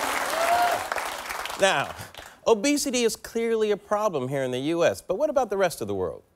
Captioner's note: applause